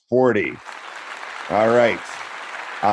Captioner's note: applause